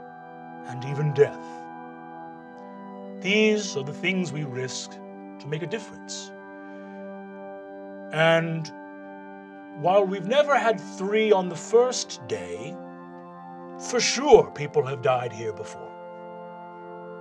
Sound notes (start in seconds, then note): none